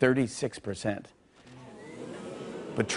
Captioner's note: audience groans